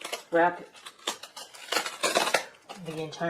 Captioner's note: sound of tape being pulled off bubble wrap